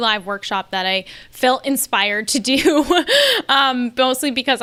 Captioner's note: laughs